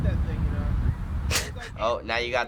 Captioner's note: laughs